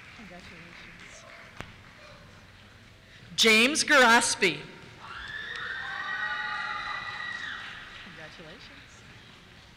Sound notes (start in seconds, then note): 5.0 cheers